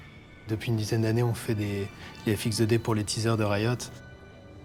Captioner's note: in french